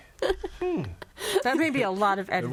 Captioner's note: laughs